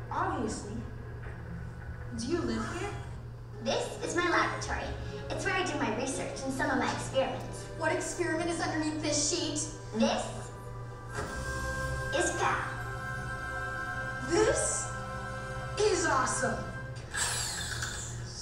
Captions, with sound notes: - [Voiceover] Obviously, do you live here? - [Voiceover] This is my laboratory. It's where I do my research and some of my experiments. - [Voiceover] What experiment is underneath this sheet? - [Voiceover] This is Pal. - [Voiceover] This is awesome.